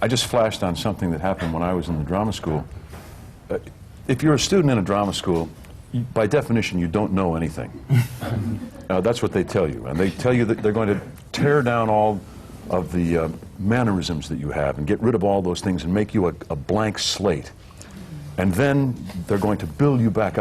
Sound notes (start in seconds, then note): 7.8 laughter